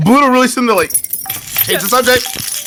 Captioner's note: shaking keys